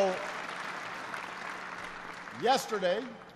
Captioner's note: applause